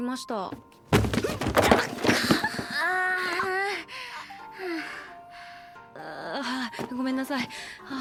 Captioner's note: useless lesbian fumbling noises